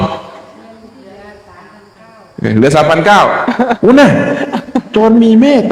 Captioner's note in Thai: เสียงหัวเราะ